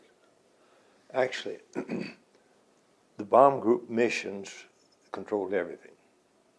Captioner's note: clears throat